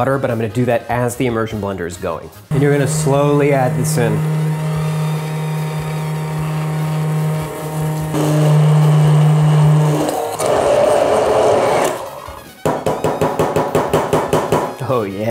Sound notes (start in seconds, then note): 5.8 immersion blender whirring; 10.5 whirring gets louder; 12.0 immersion blender stops; 12.9 taps on glass